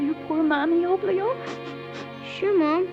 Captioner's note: sniffles